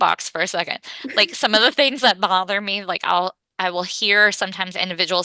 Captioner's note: laughs